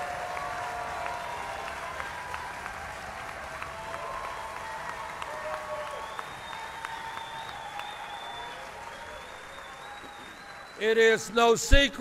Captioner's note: applause